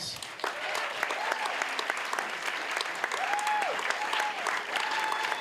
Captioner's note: audience applauding and cheering